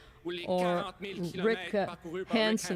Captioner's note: speaking French